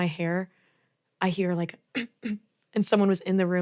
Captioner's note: throat clearing